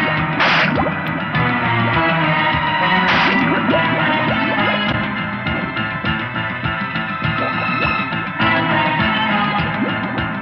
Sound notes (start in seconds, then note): 1.0 cracking; 3.8 tense music